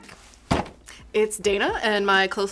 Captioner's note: box thumping